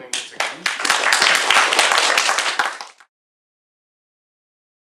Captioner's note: applause